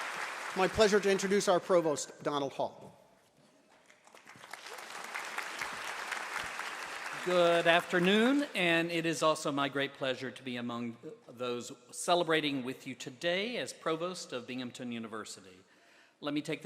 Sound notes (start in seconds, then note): 3.7 applause